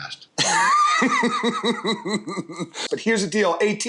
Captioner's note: laughs